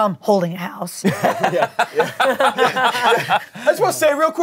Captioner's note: everyone laughs